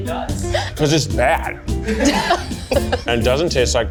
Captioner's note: all laugh